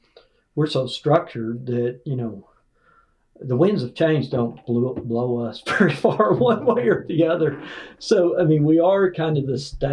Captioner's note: laughs